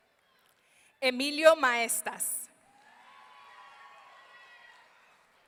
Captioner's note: audience cheering